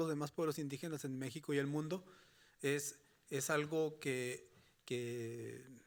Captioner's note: speaking Spanish continues